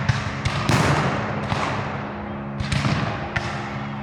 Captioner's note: guns fire